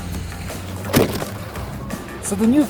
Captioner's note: snowboard thuds